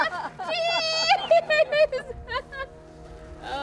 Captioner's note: laughter